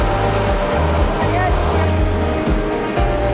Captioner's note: woman speaking in foreign language; upbeat electronic music